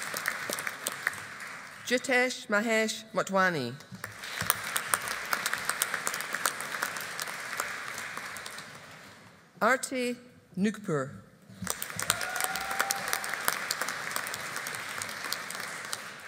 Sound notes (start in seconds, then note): 4.0 audience applauding; 11.6 audience applauding